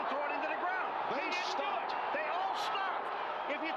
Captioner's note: cheers